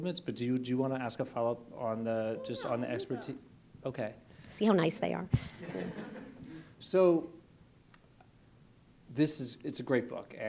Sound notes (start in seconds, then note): 5.4 laughter